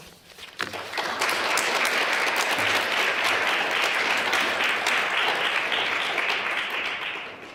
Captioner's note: applause